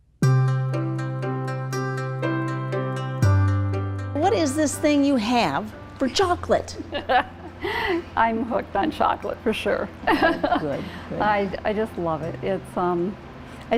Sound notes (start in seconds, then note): 0.2 relaxing music; 6.9 laughs